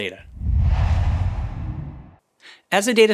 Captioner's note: logo swooshes